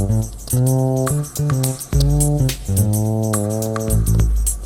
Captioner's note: none